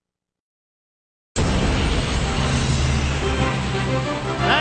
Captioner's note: plane engine roaring